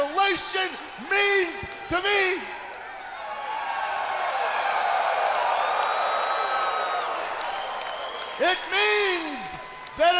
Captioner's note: crowd cheering